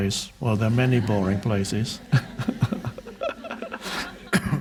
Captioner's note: laughs